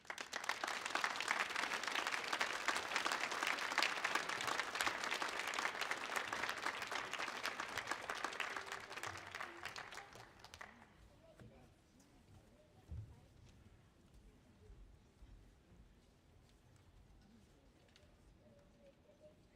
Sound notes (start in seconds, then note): 0.1 audience clapping; 11.3 people chattering